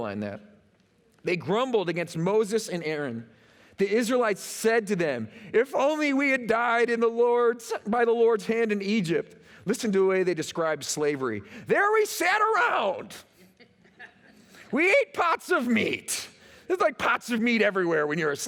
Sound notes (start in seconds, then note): 13.4 laughter